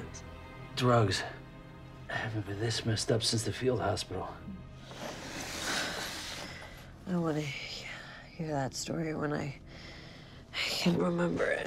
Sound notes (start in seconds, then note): 4.9 sighs